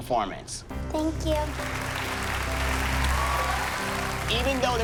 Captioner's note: applause